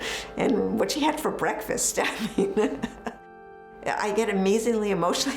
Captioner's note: laughs